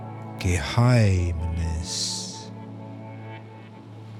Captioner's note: german